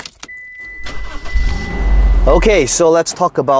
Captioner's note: car engine revving